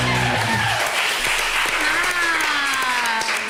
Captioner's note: team cheering